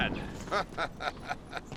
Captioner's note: laughing